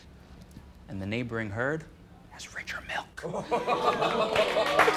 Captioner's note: whispers